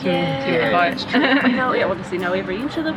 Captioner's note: laughing